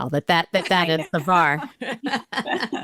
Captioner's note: laughter